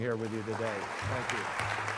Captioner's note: applause